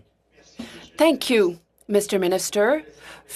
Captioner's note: speaking French